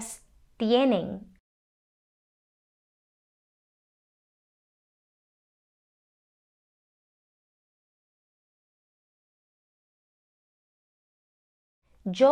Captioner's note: silencio